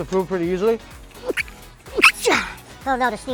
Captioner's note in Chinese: 哈瞅！